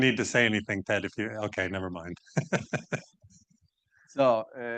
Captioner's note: chuckles